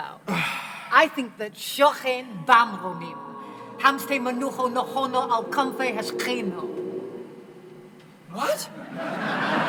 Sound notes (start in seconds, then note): 0.3 sighs; 1.9 speaking Hebrew